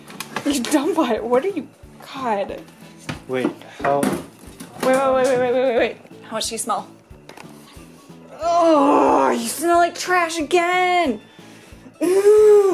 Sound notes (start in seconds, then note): 8.3 groans; 11.0 groans